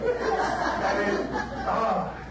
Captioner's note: audience laughs